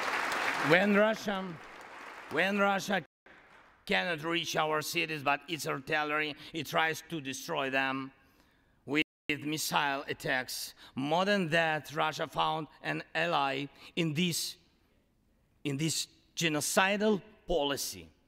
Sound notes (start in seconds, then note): 2.4 applause